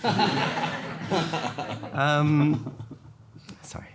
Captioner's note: everyone laughing